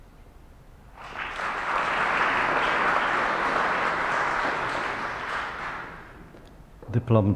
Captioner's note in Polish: oklaski